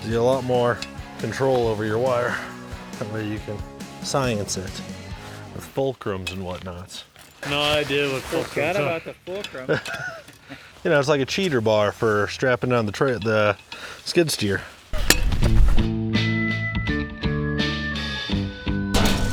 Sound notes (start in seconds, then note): 8.9 laughs; 15.0 chill rock music